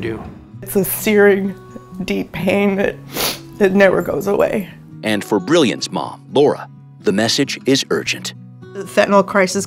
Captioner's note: sniffles